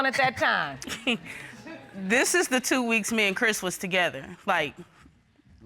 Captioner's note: laughs